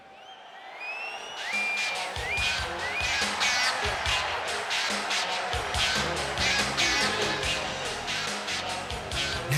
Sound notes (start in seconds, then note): 0.8 audience cheers; 1.6 upbeat music